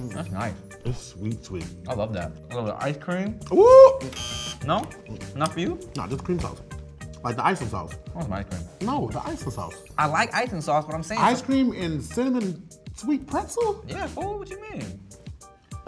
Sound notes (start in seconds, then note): 4.1 buzzer buzzes